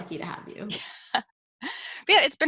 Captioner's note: laughs